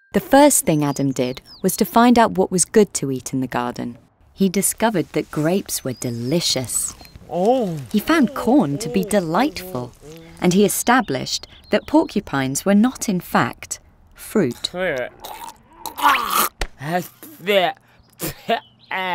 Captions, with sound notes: The first thing Adam did was to find out what was good to eat in the garden. He discovered that grapes were delicious. He found corn to be delightful. And he established that porcupines were not, in fact, fruit. (Adam gags)